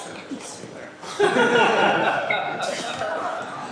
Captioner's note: laughter